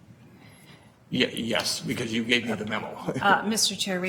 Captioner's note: chuckles